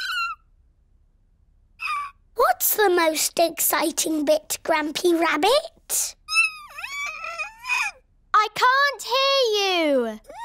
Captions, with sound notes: (SQUEAK!) What's the most exciting bit, Grampy Rabbit? (SQUEAKS) I can't hear you!